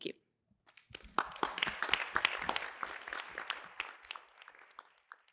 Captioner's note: applause